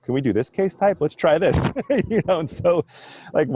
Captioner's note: laughs